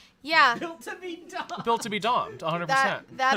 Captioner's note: laughing